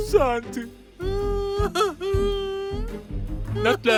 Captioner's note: crying